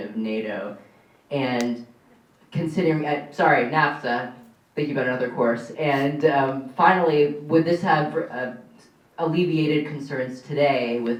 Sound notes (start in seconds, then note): none